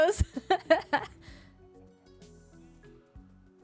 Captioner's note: laughs